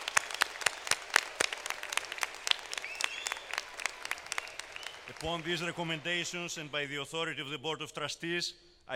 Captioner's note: applause